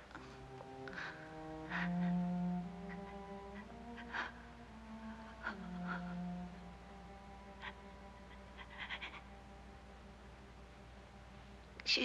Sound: wimpering

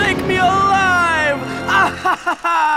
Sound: crazed laughter

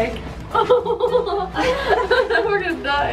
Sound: girls laugh

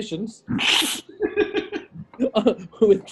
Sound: sniggering

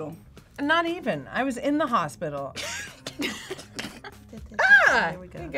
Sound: laughs

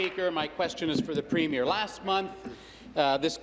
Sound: applause

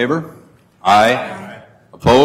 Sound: multiple voices

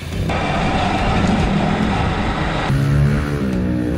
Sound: car engine roars; motorcycle vrooms

